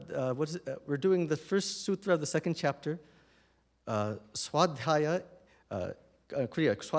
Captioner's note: non-english